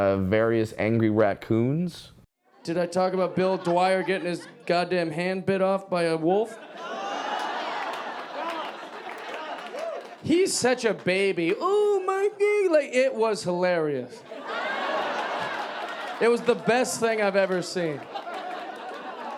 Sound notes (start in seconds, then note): 14.2 audience laughing